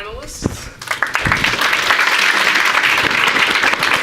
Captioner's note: audience applauding